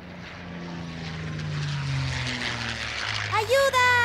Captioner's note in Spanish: Sonido de avión pasando